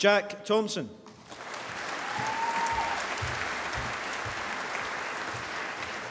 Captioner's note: applause